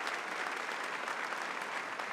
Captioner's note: applause